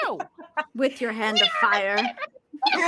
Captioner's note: laughing